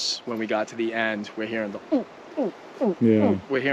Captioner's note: imitating gator